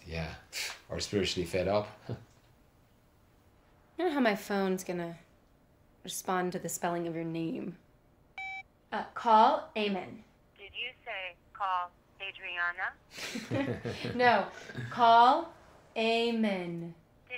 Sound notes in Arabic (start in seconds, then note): 10.7 هاتف; 13.2 يضحك